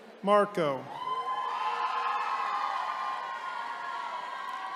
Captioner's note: attendees cheering